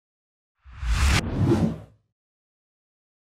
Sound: text whooshes

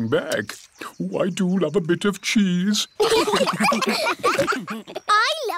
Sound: laughter

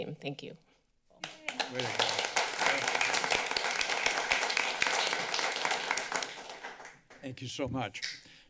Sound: clapping

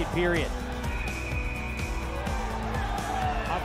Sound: whistle blows

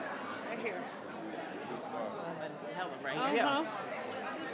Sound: crowd chattering continues

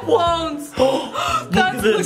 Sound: gasps

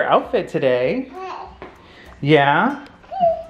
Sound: baby coos

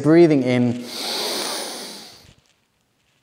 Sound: inhales

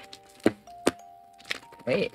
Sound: unpacking Sounds

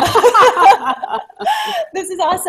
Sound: laughter

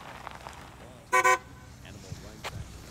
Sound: honks horn

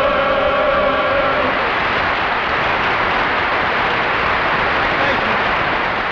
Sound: audience applauding

